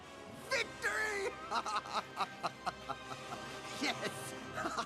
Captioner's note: evil laughter